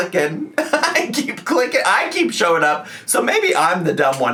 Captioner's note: laughs